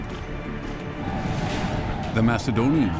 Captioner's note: deep rumble